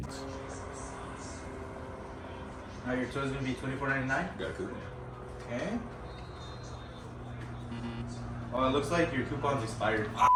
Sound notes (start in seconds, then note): 7.6 invalid buzzer sound